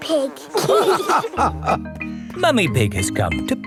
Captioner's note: all laughing